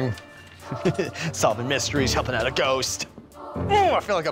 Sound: giggles

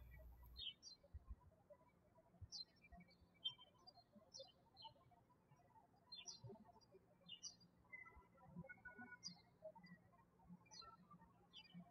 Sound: birds chirping

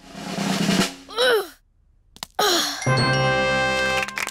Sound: drum roll; groans

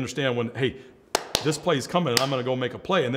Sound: claps

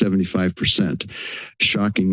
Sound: inhales

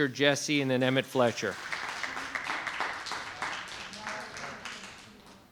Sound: audience applauding

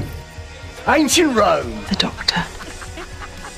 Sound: 10th and Rose laughing

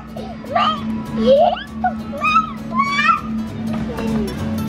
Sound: happy mumbling

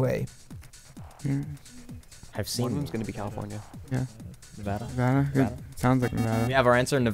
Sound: wispering

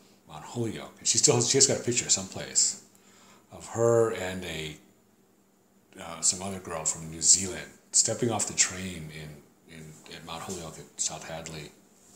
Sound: deep breath

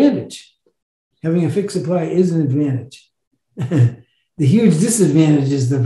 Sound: chuckles

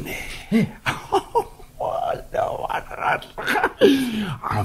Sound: laughs delightedly

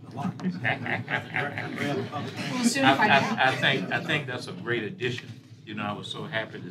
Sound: laughter

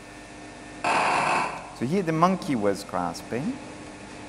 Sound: loud buzzing sound

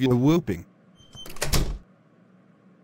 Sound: SFX: Door closing

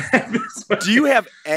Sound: laughs

